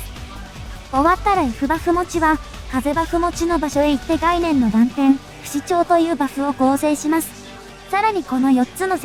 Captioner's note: wind